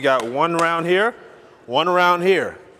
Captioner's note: clapping